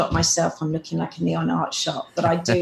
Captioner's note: laughing